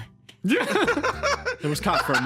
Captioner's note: laughs